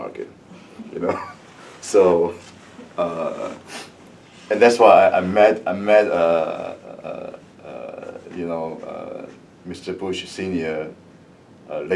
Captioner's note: laughs